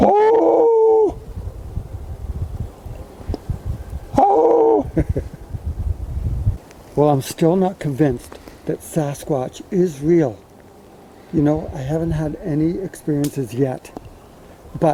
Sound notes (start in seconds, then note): 0.0 yelps; 4.7 laughs